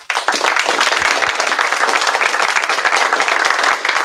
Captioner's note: applause